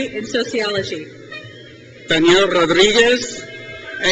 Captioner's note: crowd cheers